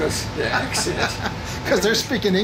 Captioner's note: laughing